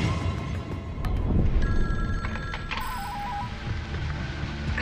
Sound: phone ringing

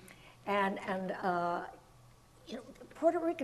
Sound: none

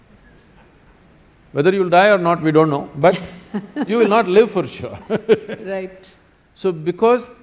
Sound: laughter

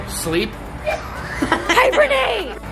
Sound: laughing

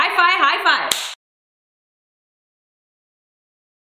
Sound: slaps

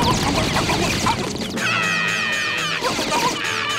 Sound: screaming

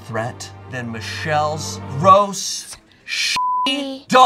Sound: beep

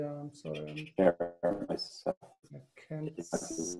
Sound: voice scrambles

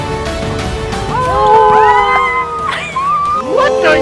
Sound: loud shouting and gasping

